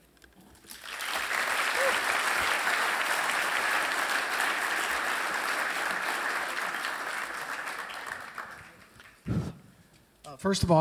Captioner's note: applause